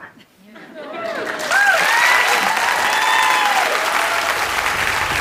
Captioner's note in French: Applaudissements